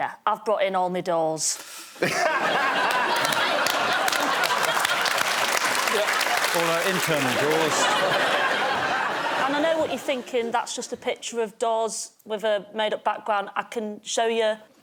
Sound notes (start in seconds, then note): 2.0 laughter; 4.6 applause